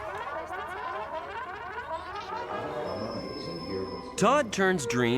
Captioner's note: toys tinkering